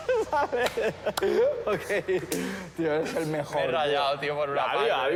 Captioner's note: laughs